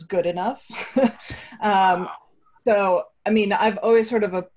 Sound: laughs

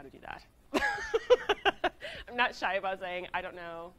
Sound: laughs

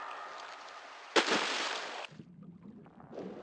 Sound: splash

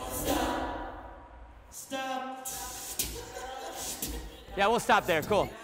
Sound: students laugh

